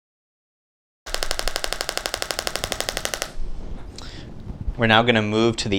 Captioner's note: applicator clicks rapidly